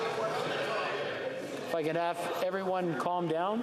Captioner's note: yelling